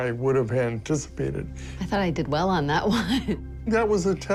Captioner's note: laughs